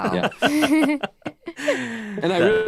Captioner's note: laugh